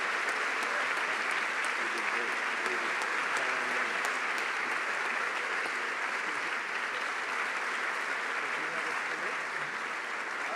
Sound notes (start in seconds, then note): 7.5 applause